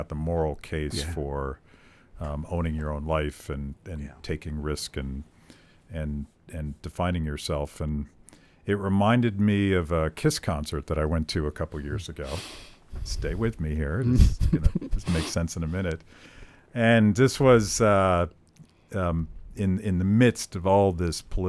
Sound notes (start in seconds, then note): 14.0 laughs